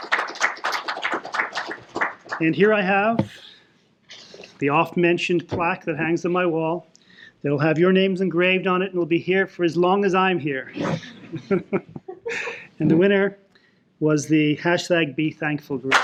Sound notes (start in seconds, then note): 0.0 applause; 10.8 laughter